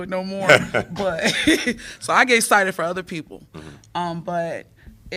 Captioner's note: laughter